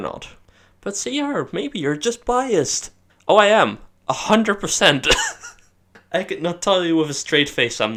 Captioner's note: laughs